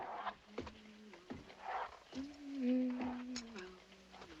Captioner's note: humming